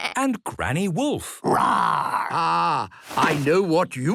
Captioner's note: bleating; roaring